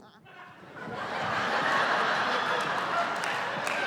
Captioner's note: laughter